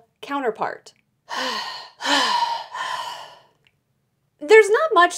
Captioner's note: giant sigh